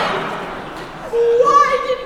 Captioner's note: laughter